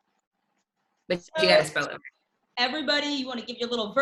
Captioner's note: distorted audio